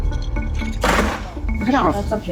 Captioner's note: clatter